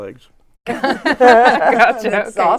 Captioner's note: everyone laughs